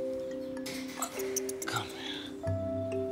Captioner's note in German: Fiepen